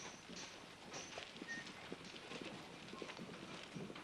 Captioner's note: whistling to himself